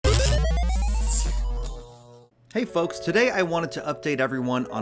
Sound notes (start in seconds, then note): 0.0 electric zapping and arcade game sound effects